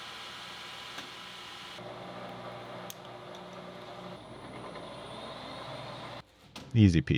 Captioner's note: machine whirring